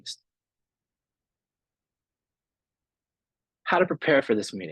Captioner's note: silence